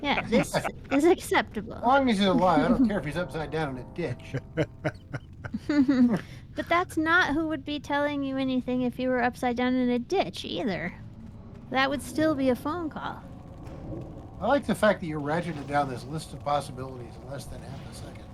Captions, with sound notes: Yeah, this is acceptable. As long as you're alive, I don't care if he's upside down in a ditch. (laughs) But that's not who would be telling you anything if you were upside down in a ditch either. That would still be a phone call. I like the fact that you're ratcheted down this list of possibilities less than half a second.